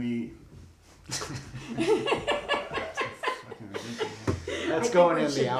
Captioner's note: laughs